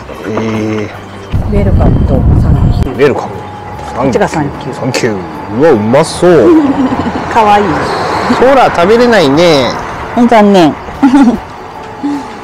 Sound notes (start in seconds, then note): 6.4 laughs; 11.0 laughs